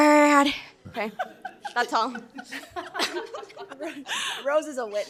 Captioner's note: members laughs